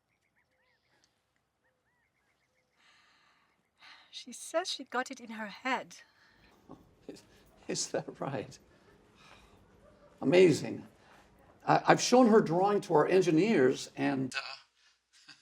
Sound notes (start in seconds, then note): 8.8 chuckles